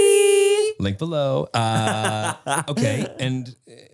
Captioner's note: Manny laughs